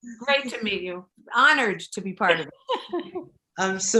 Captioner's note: laughing